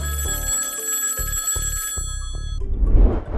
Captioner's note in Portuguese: telefone tocando